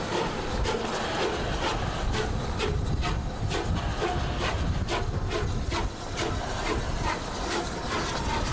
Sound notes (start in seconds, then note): 0.0 train passes